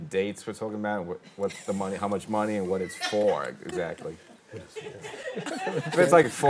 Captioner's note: chuckles